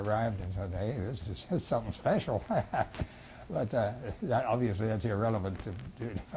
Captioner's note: laughs